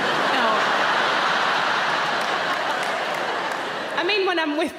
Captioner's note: audience laughing